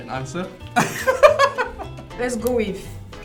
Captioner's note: laughs